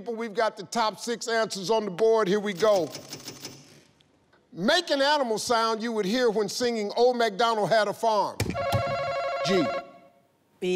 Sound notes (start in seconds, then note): 8.5 answer button beeping